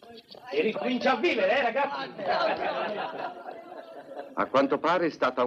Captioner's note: men laughing